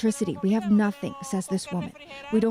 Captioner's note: speaking alternate language